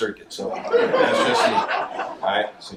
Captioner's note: audience laughs